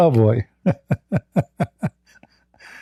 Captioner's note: Ketawa